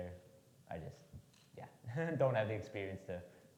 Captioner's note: laughs